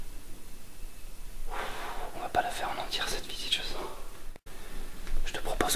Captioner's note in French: Soupir…